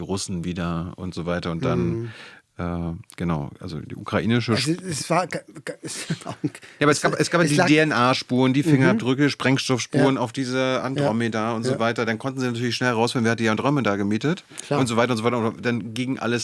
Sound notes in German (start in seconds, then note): 5.7 gelächter